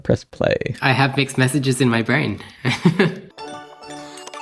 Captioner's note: chuckles